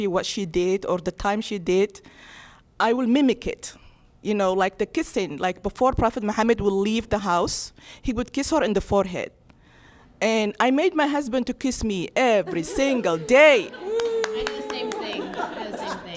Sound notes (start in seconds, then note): 12.6 audience laugh, clapping